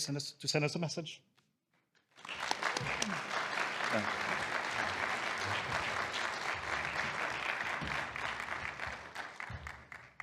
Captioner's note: applause